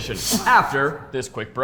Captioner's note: laughs